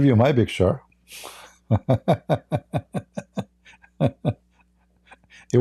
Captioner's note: Ketawa